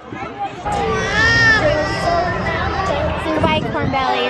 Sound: baby crying

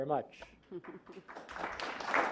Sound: clapping

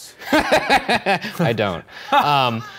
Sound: laughing

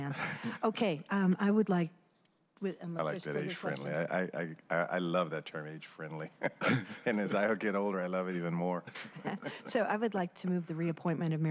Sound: laughter

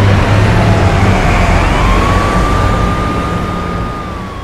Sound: police sirens wailing

